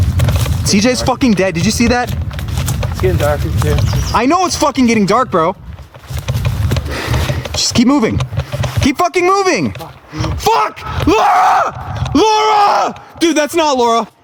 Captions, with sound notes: CJ's fucking dead. Did you see that? - It's getting dark. - I know it's fucking getting dark, bro! [sighs] Just keep moving. Keep fucking moving! [screaming] Fuck! Laura! Laura! Dude, that's not Laura.